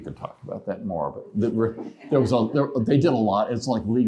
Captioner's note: laughter